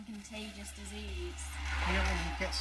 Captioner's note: street noise